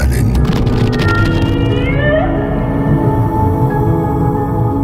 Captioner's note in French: Chant de rorqual